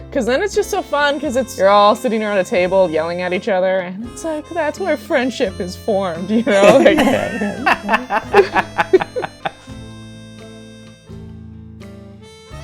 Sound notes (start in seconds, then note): 6.5 laughter